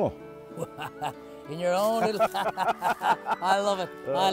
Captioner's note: laughs